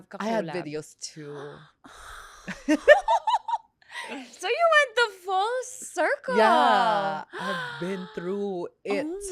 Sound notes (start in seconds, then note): 2.3 gasps; 3.1 laughs; 7.3 gasps